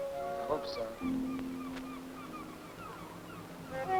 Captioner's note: seagulls cawing; gentle flute music